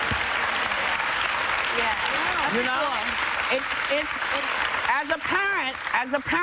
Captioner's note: applause